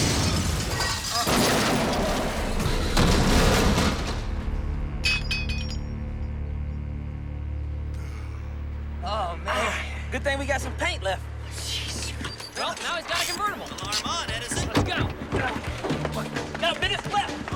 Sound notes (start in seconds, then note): 7.6 gasp